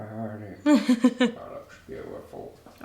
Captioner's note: laughing